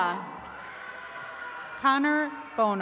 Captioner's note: attendees cheering